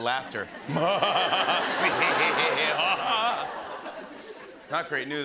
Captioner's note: laughing evilly